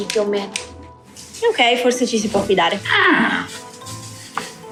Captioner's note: squawks